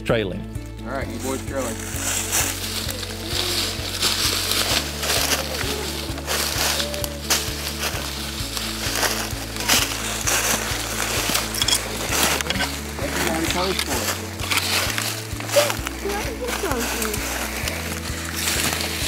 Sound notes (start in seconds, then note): 3.0 kids talking